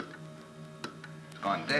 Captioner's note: tapping